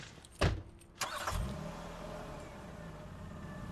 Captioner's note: engine turns over